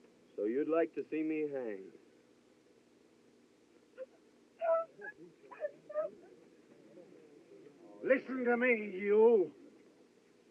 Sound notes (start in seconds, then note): 4.6 crying